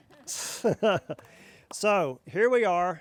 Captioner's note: laughing